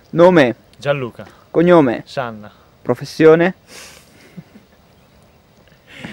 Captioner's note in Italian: risata